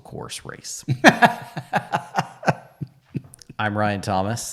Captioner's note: laughing